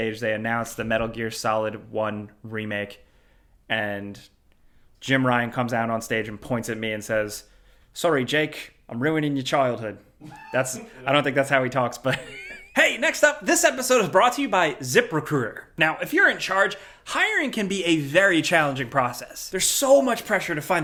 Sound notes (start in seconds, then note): 10.2 friend laughs; 10.2 chuckles